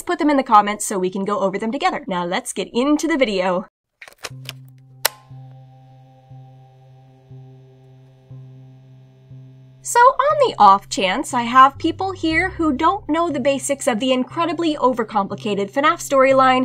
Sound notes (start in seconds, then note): 4.0 sound of a tape being inserted into a player, soft motor running